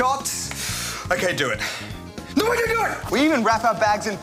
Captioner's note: gasps